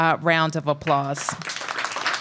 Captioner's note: applause